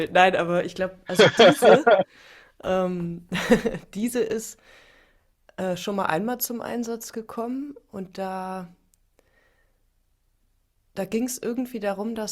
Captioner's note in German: gelächter